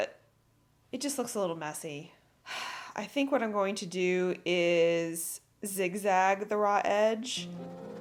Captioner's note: sigh